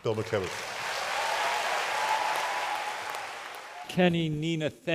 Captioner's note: applause